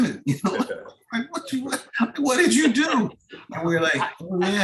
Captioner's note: laughs